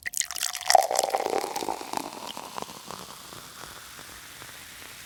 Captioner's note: beverage pouring